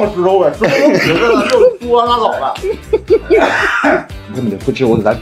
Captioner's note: ha ha ha ha ha ha